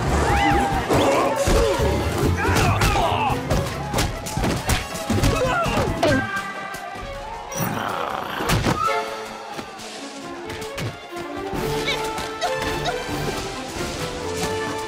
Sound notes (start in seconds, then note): 7.6 growling; 12.7 Webby grunting